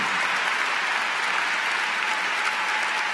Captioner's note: cheers & Applause